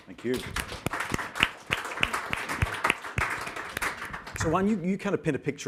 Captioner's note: applause